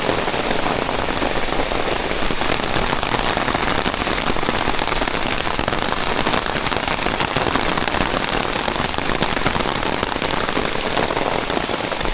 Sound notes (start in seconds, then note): 0.0 rain on umbrella